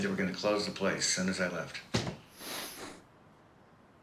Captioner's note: breathing